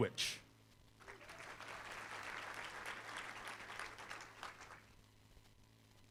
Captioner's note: applause